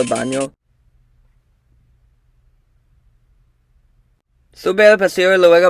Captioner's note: awkward silence